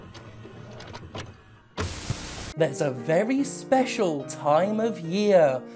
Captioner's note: static